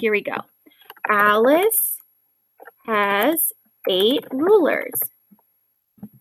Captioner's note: typing